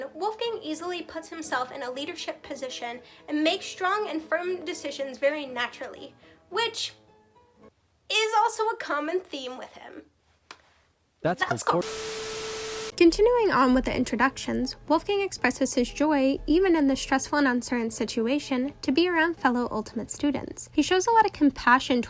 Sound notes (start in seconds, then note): 11.2 tv static